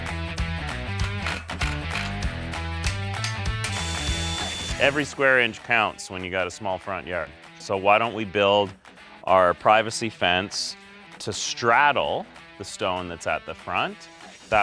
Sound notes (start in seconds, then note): 2.6 hammer banging; 2.8 grinder whirring